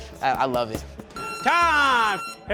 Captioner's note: loud beep